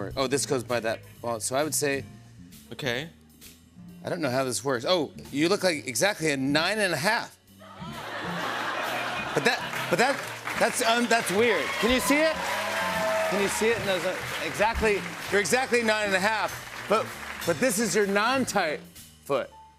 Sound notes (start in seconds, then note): 7.8 laughter; 10.6 cheers and applause